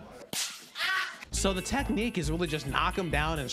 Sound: screaming

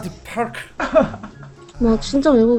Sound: laughter

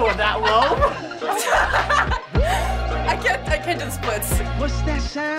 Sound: laughs

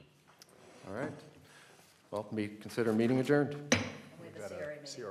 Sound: gavel bang

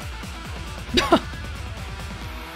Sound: chuckles

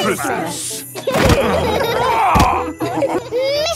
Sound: laughing

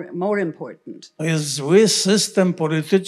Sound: foreign language

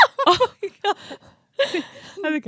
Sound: both laughing

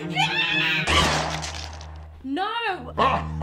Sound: gun shot!; maniacal laughter

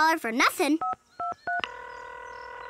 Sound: ringing

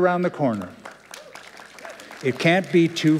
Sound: applause

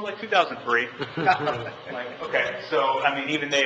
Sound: members laughing

